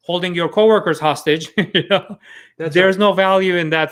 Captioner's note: chuckles